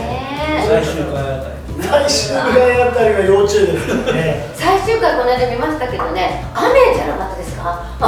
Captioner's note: laughs